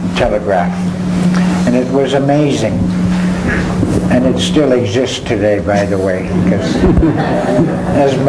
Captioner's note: crowd laughs